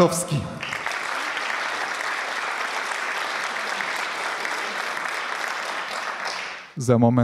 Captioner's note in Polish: oklaski